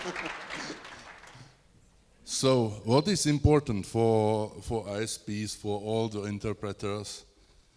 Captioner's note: applause